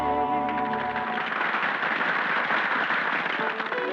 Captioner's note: people applauding